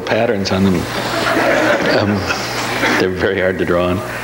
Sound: audience laughs

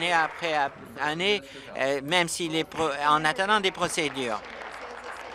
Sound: applause

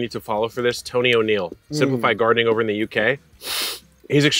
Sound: sniffs

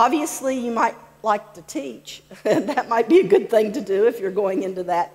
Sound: laughs

